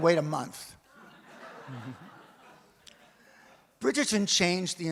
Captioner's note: audience laughs